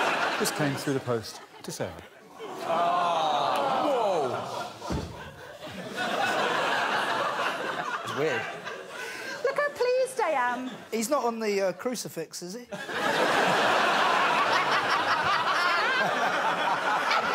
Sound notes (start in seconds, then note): 12.7 crowd laughs